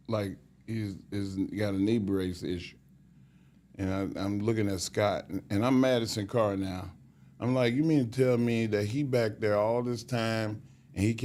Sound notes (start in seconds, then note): none